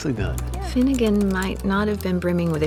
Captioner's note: typing